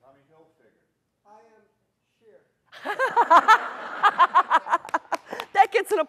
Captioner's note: all laughing